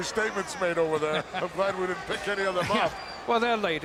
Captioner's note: laugh